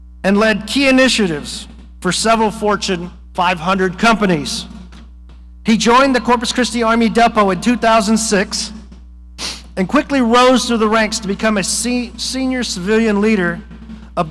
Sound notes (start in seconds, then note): none